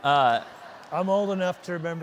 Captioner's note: audience laughing